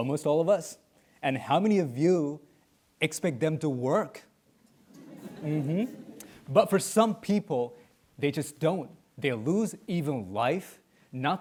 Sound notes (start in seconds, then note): 4.8 audience chuckling